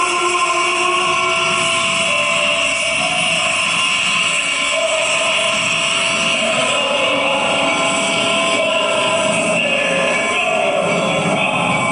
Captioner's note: train noises and music